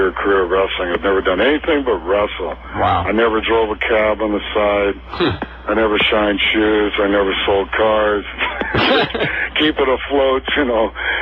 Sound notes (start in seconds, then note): 8.4 laughs